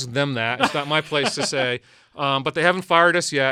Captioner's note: laughs